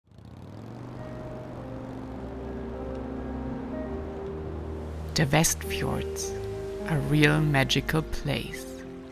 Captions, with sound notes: (gentle music) (motorcycle engine revving) - The Westfjords, a real magical place.